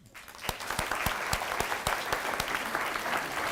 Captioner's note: applause